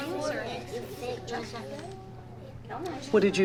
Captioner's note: children chattering